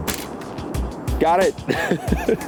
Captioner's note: chill electronic music; camera shuttering